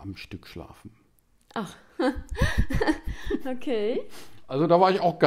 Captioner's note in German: lachen